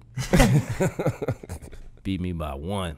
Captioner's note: hosts laughing